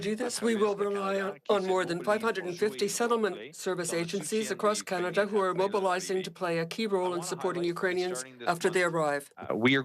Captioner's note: speaking French